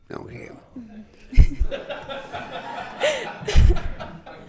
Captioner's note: all laughing